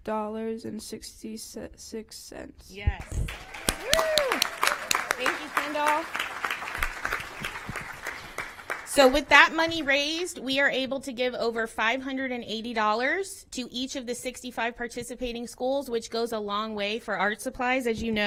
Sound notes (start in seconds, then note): 9.0 applause